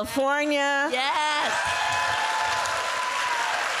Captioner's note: applause